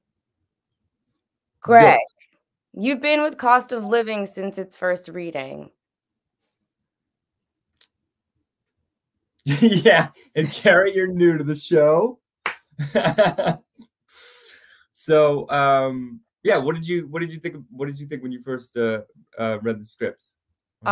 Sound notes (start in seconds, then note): 9.4 laughs; 12.8 claps and laughs